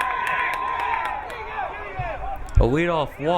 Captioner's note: crowd cheering